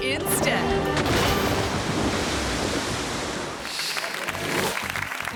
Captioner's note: water sloshing; audience clapping